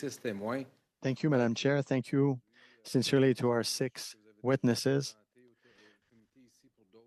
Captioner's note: speaking French